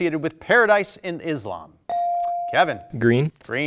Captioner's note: buzzer dings